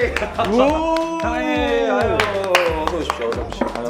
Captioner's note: greets them with claps and cheers